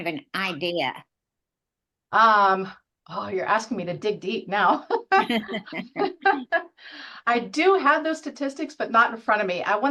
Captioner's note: chuckle